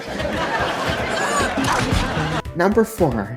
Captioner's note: thwack